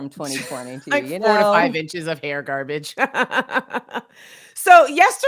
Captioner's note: laughs